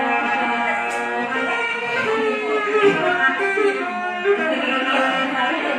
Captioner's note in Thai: ปรบมือ